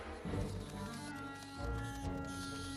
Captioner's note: squeaking